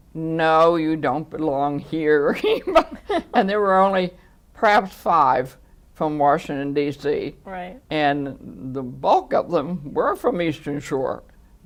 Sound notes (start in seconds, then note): 2.5 laughs